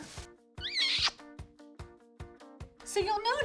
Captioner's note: smooching